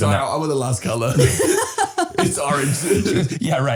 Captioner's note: laughing